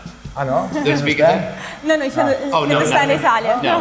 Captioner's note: speaking in foreign language